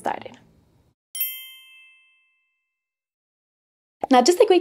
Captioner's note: gentle chime jingling